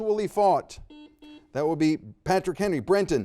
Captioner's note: buzzer dings